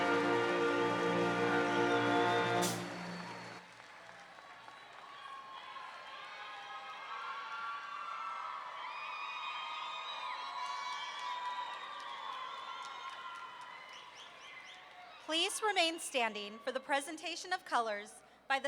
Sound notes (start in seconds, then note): 6.6 audience cheering; 13.6 audience members chirp-whistling